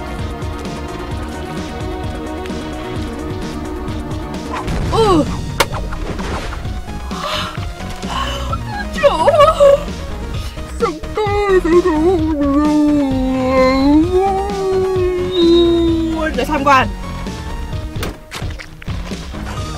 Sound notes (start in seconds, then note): 9.0 yawning; 12.6 yawn